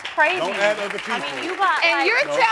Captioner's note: crowd clapping